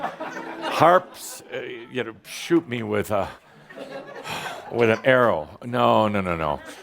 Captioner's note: laughter; sigh!